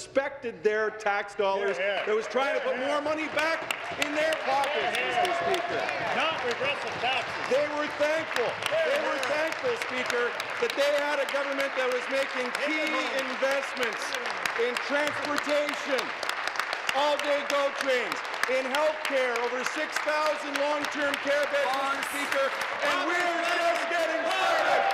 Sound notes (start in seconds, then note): 9.4 applause; 13.2 applause; 18.8 continued applause